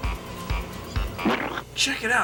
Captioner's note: squish